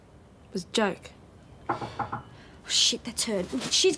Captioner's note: knock at door